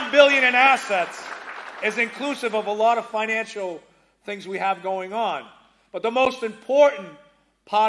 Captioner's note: applause